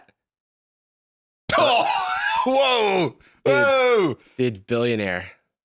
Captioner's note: laughing